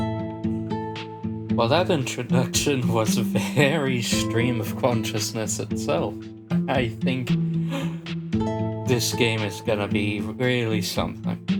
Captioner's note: inhale